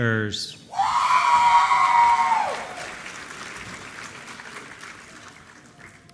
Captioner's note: applause